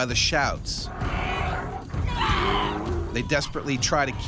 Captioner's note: yelling